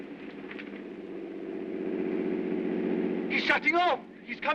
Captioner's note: aircraft rumbling